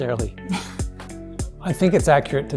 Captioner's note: laughs